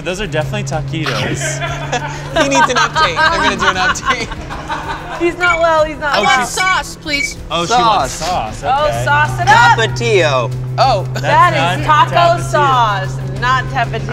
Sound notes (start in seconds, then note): 1.0 laughs; 7.0 app beeps